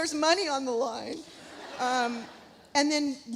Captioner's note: audience laughs